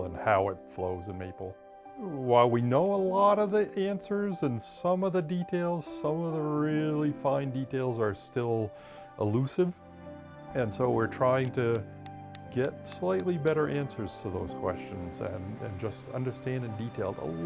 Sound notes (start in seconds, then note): 11.4 plastic tapping